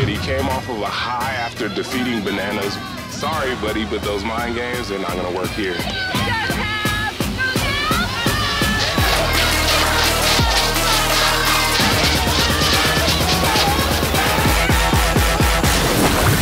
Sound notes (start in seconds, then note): 8.5 crowd cheer; 9.7 tense music